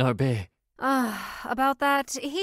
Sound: sighs

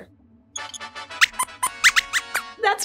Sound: squeaks squeaks

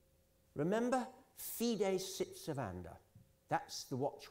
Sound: italian

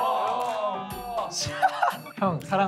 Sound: laughs

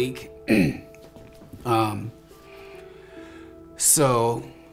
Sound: clears throat

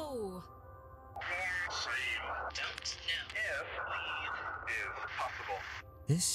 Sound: radio

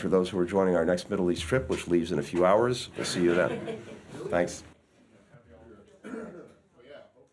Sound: laughter

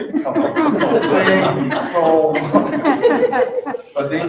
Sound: people laughing

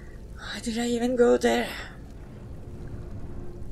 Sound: sighs

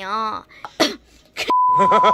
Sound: cough

